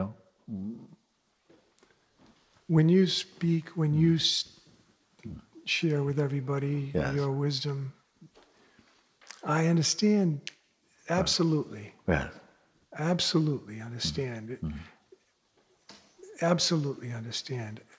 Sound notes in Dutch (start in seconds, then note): 10.4 vingerknip